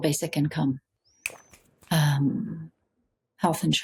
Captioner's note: snaps fingers